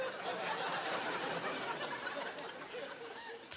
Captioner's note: laughing